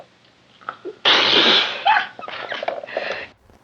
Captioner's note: laughing